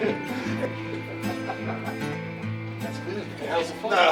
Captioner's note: laughing